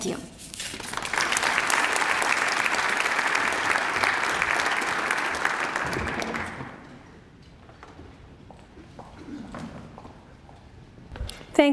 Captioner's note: applause